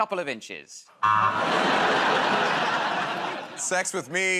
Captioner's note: laughter, buzzer